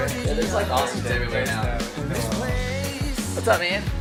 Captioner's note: mixed chattering